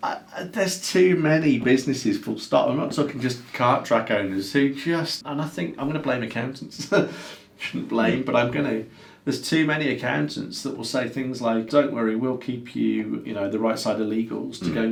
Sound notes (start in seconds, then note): 6.6 laughs